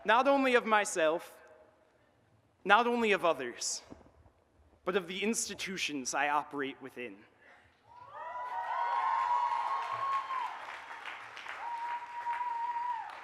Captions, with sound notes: --not only of myself, not only of others, but of the institutions I operate within. [AUDIENCE CHEERS AND APPLAUDS]